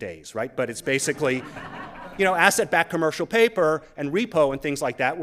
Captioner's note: laughter